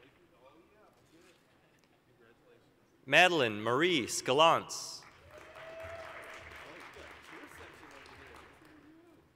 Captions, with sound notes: Madeline Marie Skelonc. (applause, cheering)